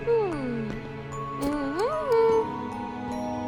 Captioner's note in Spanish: Chasquido de lengua